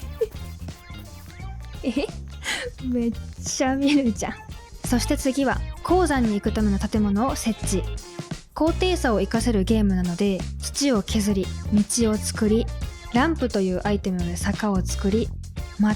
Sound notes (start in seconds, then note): 2.4 laughs